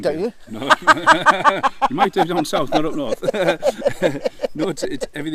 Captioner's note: much laughter